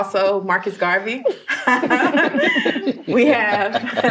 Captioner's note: all laughing